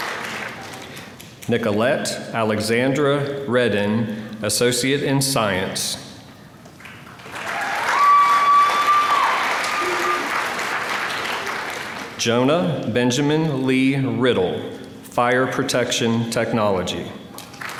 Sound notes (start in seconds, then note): 6.8 applause; 17.4 applause